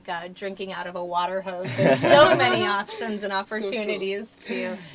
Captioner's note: laugh